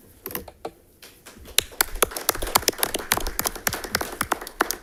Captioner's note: audience applauding